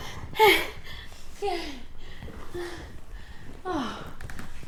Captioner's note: Maisie gasping